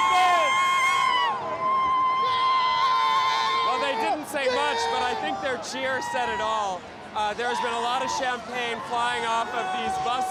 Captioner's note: cheers and Applause